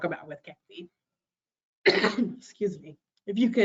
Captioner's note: coughing